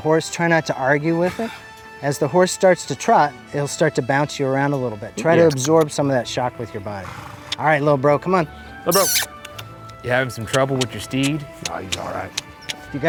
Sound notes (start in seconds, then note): 8.9 making kissing sounds